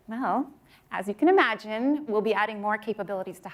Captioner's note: none